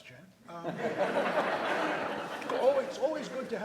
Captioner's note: audience laughs